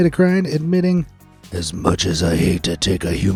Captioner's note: in a deep batman voice